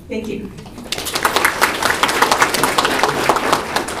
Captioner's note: applause